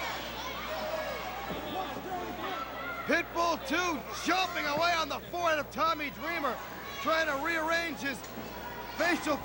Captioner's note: crowd chatter